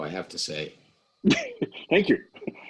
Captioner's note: laughing